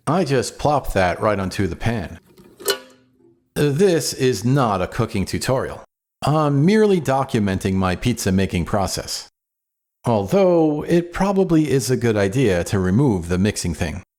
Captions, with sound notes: I just plopped that right onto the pan. [Clink] This is not a cooking tutorial. I'm merely documenting my pizza making process. Although, it probably is a good idea to remove the mixing thing.